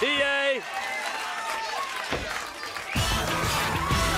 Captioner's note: crowd cheering